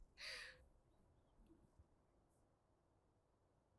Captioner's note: Mathilde gasps